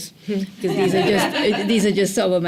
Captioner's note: laughter